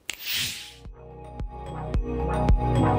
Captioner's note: snaps fingers